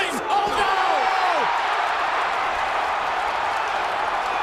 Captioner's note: crowd cheers